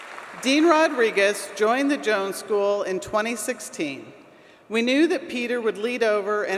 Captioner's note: applause